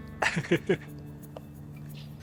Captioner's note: chuckles